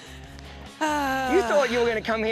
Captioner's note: sighs